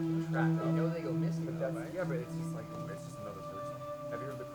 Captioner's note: chatter